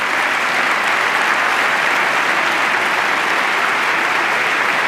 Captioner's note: applause